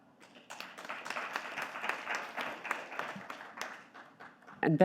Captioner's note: audience clapping